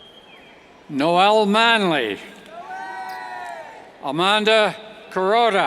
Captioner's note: yells